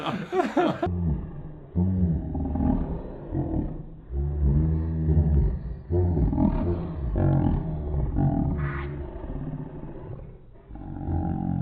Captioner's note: the pitch of the laughter suddenly lowers in a disturbing way